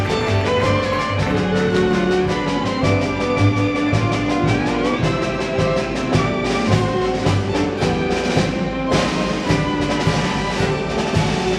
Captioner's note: applause